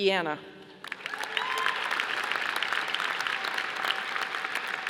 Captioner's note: audience applauding